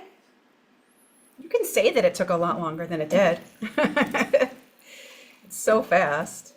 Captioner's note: laughs